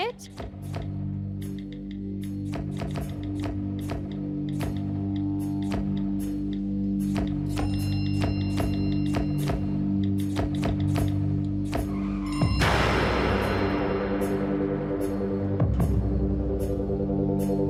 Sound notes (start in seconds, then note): 12.6 loud crash